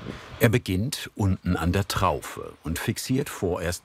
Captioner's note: none